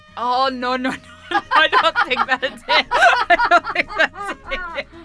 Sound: speakers laughs

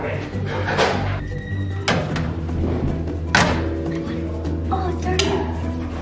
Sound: metal slamming on wall

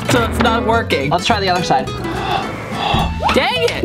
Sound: blowing on glasses

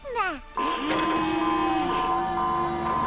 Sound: alarm blaring

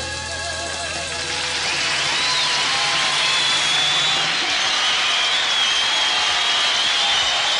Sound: audience applauds and cheers

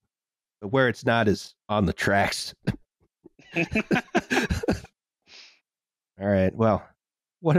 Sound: laughter

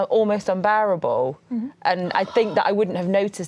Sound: sighs

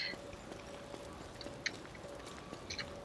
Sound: laughter

